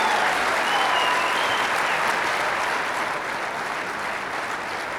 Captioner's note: audience applauding; audience cheering